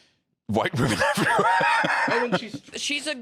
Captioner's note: laughs